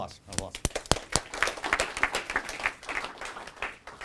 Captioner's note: applause